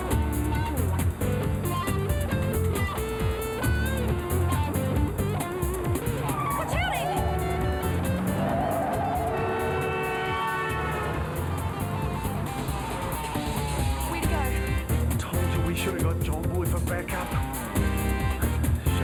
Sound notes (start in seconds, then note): 6.2 cars honk; 12.2 upbeat music